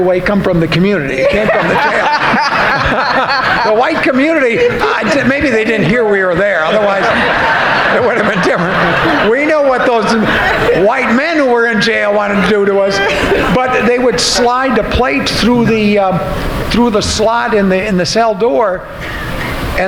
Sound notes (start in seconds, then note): 4.7 laughing; 7.7 audience laughing